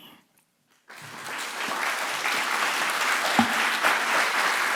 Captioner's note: audience applauding